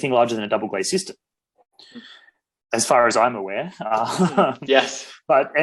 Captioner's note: laughs